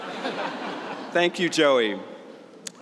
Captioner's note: laughter